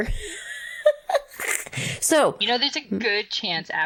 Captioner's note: laughs